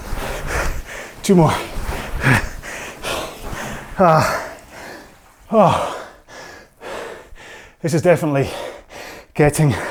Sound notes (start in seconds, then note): 2.4 breathes heavily